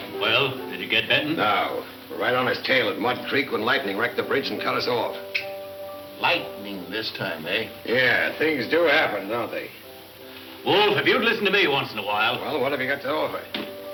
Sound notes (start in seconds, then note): none